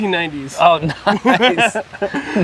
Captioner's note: laugh